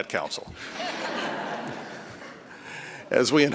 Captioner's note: laughter